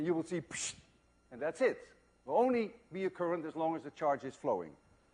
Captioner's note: pssshhht